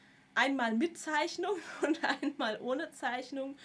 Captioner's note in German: gelächter